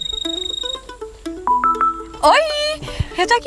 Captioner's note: mobile phone ringing